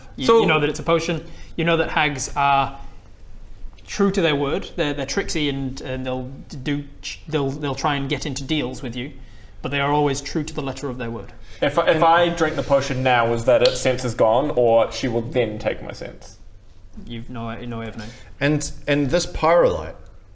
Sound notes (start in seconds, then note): 13.6 snap